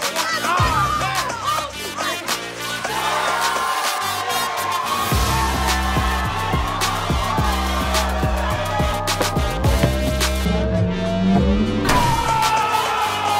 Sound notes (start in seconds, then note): 0.0 crowd cheering; 1.6 yelling; 3.4 crowd cheering; 5.3 upbeat music; 13.1 upbeat music